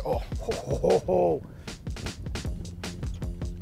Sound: laughs

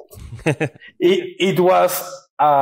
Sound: laughs

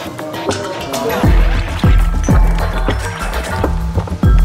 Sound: creatures squeaking

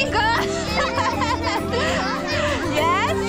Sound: laughing

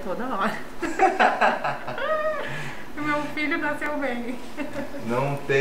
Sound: laughs

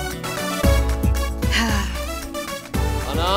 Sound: Ananya sighs

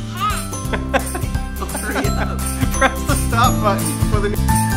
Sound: laughter

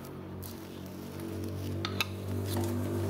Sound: distant traffic noise

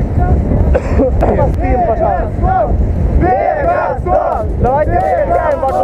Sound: sounds of joy

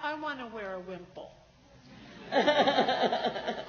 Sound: laughs

